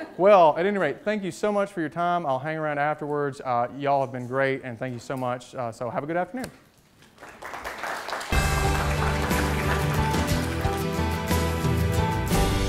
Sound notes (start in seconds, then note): 7.0 clapping; 8.3 gentle inspirational music